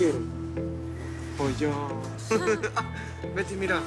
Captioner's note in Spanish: Risas